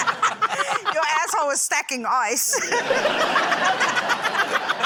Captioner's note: laughter; laughter